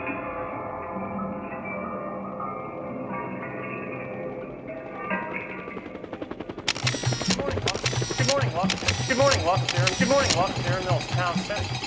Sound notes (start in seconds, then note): 5.4 helicopter rotors whirring; 6.6 camera clicking